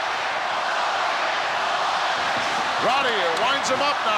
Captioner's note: crowd chants "Hogan"